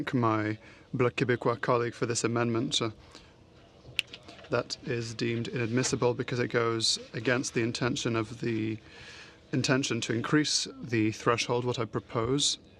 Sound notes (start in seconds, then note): 6.4 speaking french